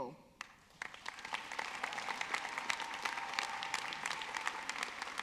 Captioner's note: audience clapping